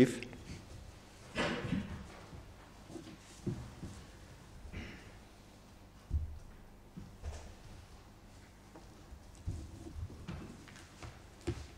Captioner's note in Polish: brak głosów z sali